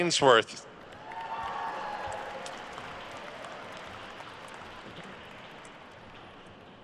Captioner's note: attendees cheering and applauding